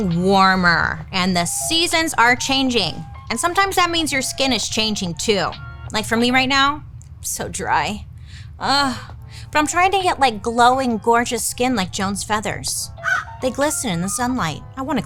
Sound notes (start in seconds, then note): 13.0 crow caws